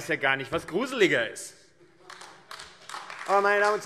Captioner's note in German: Beifall AfD